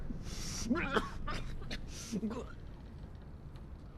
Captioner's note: coughs up blood